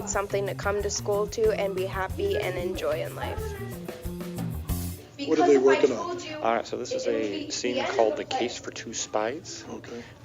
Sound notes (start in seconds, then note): 4.2 jazz music; 5.7 students rehearsing